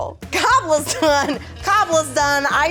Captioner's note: chuckling